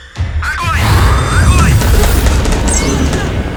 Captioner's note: radio